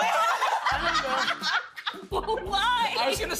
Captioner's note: all laughing